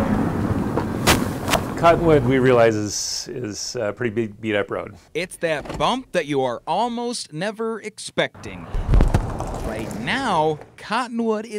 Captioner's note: nat -- car driving over potholes